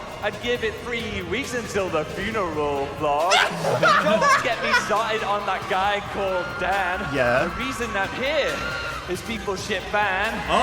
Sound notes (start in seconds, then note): 3.3 both laughing